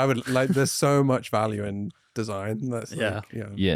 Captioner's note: laughs